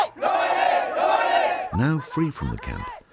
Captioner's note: yelling in foreign language; crowd chanting; voiceover